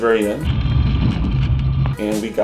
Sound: plane turbulence

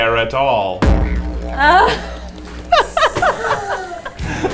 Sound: laughing

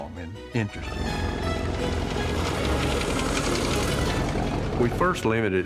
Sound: car engine roaring

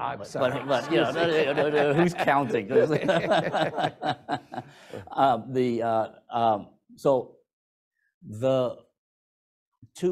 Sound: laughter

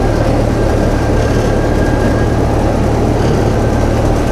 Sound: train rumbling

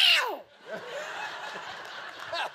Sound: yowls

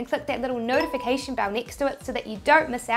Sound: bell dings

